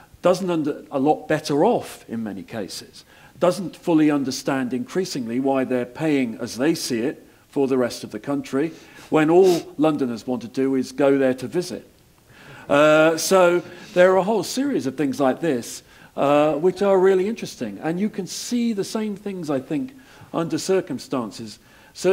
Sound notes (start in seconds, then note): 12.1 laugh